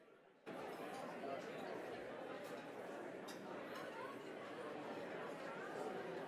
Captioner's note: chatter